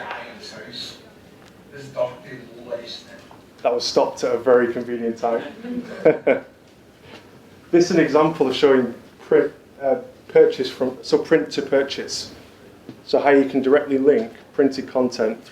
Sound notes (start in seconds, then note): 5.4 laughs